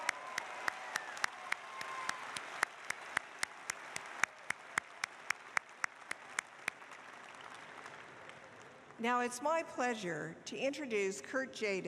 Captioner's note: applause